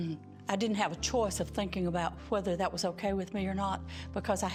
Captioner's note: stammering